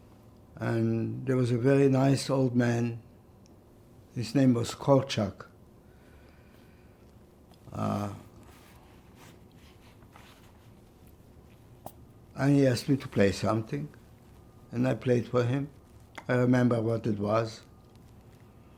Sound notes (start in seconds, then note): 5.8 pauses 6 seconds